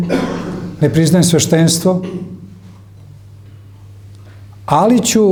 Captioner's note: he coughs